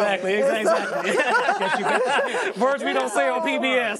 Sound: crowd laughing

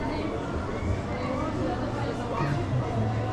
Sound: plane sound

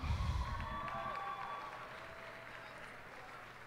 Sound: cheers and applause

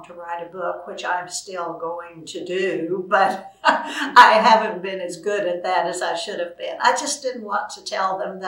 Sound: laughs

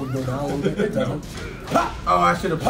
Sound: laugh

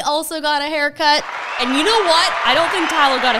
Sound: cheering sound

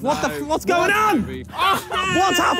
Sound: players groan

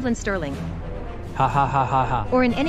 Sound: mr. sterling chuckles

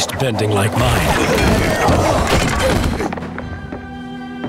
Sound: grunting

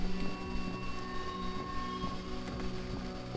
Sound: eerie noises

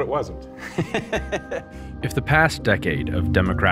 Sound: laughs

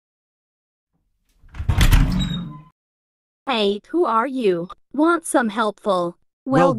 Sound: door Open

